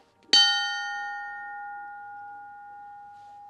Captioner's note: ding